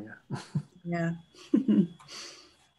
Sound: chuckles; giggling

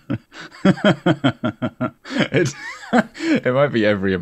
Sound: chuckling

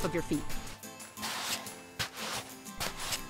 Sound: sound of sandals in sand

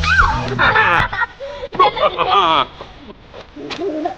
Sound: wicked laughing

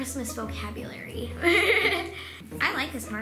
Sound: laughing

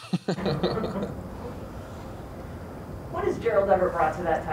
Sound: laughter

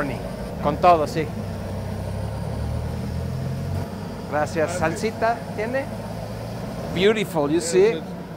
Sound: speaking Spanish

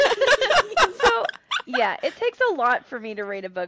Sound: laugher

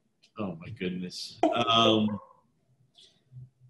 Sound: laughs

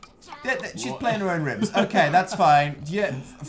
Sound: laughing

